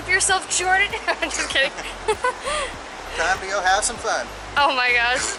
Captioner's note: laughter